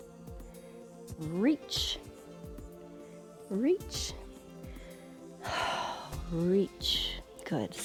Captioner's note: exhales